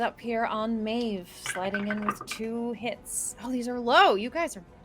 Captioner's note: dice rattling